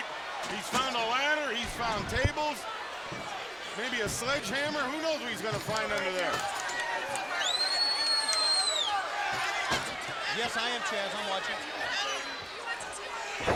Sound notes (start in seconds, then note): 7.7 audience cheering